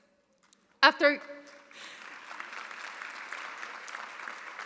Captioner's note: audience applauding